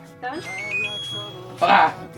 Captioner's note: machine beeping